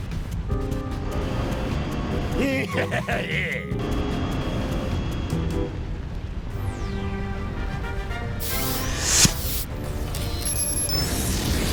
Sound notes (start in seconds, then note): 2.3 evil chuckle